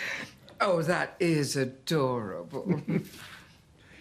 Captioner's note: chuckles